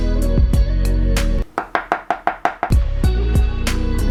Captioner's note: tap